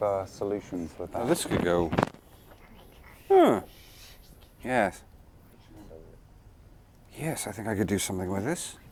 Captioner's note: interested noises